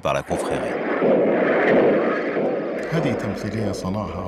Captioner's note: explosion sounds